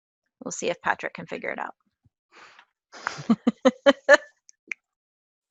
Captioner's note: laugh